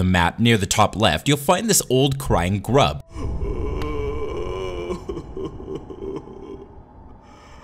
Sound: old crying grub sound

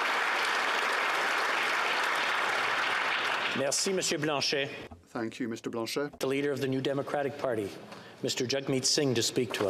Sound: applause

